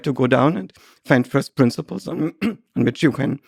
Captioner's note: clears throat